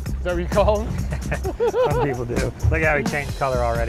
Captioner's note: chuckles